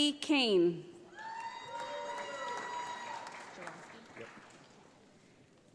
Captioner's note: audience applauds